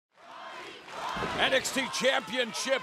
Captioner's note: fans chanting